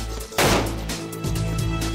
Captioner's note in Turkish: si̇lah sesi̇